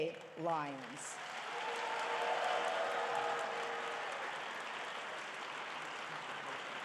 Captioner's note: audience cheering and applauding